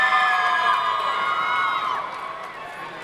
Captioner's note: clapping